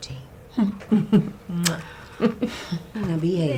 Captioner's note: lips smacking